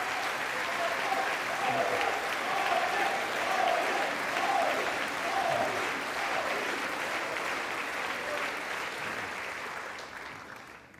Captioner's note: applause